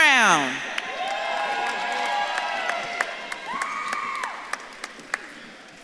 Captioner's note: audience claps and cheers